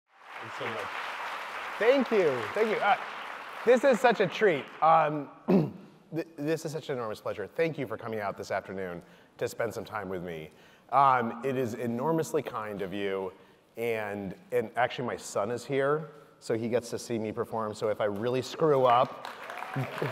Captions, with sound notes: (audience applauding) - Thank you so much. - Thank you. Thank you. This is such a treat. (clears throat) This is such an enormous pleasure. Thank you for coming out this afternoon to spend some time with me. It is enormously kind of you and actually my son is here, so he gets to see me perform, so if I really screw up,